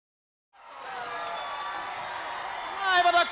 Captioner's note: crowd cheering